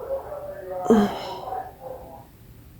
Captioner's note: deep sigh